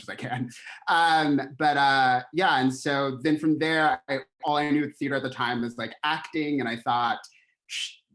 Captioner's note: laughter